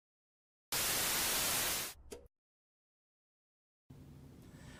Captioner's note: television static